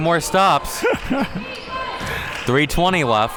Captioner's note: laughing